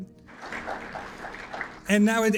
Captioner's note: audience applauds